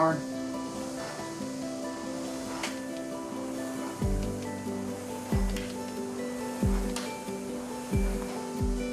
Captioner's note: light music; rowing machine whoosing